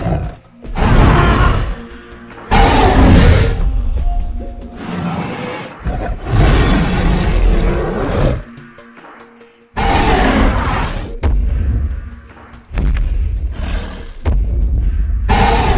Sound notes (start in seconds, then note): 0.0 growling Sounds; 4.7 roaring Sounds; 10.8 heavy Footsteps